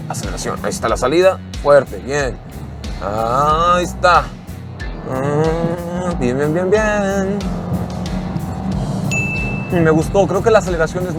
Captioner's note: laughs